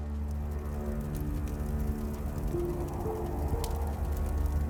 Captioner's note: fires crackling